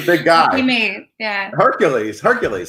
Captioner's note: laughs